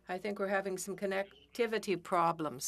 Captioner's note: speaking French